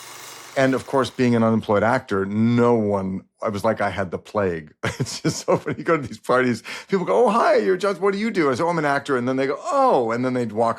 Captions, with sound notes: And of course, being an unemployed actor, no one-- it was like I had the plague. (LAUGHS) It's just so funny. You go to these parties, people go, "Oh, hi, your job, what do you do?" I'd say, "Oh, I'm an actor." And they'd go, "Oh," and then they'd walk away.